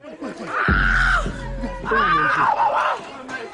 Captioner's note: metal clanking; man shrieking